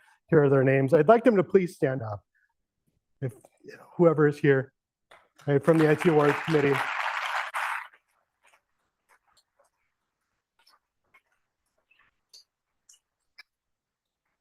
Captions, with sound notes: Here are their names. I'd like them to please stand up, whoever is here from the IT Awards committee. [APPLAUSE]